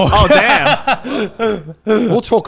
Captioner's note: laughing